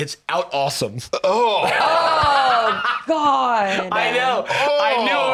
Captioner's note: groans